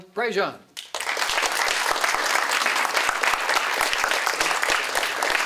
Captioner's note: applause